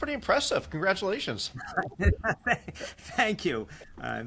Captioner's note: laughter